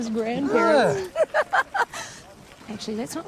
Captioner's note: laughs